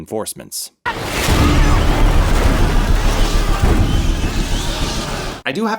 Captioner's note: alarmed yelling, squeaking bats, wings fluttering